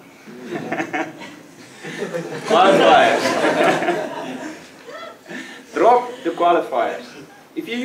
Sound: laugh

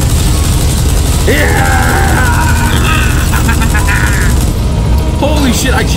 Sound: screaming with the minigun

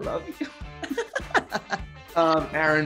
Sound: both laughing

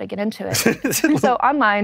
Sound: both laugh

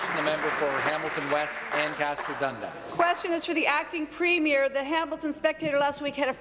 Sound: applause

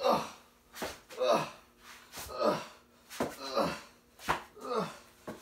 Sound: groaning noises

